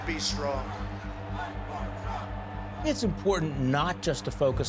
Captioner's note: crowd chanting